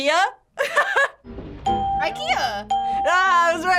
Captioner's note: laughs; ding